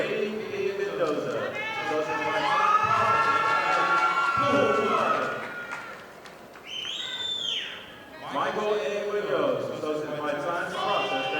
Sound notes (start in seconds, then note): 5.9 audience applauding